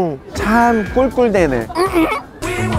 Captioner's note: oink oink